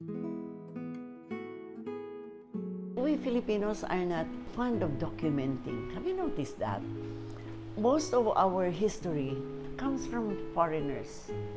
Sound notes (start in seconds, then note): none